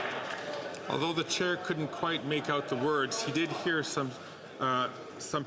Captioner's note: some Applause